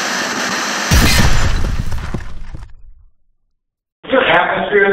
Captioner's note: glass shattering